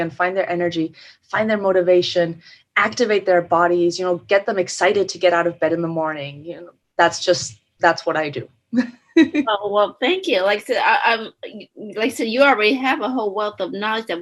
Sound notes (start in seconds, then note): 8.8 chuckles